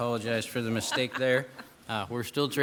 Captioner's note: laughing